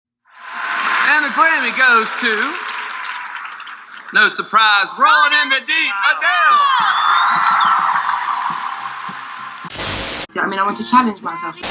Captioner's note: cheers, applause